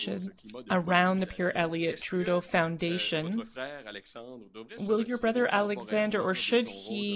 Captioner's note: speaking French